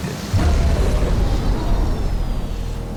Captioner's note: loud thunderclap sound